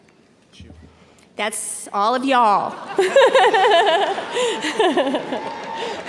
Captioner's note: laughs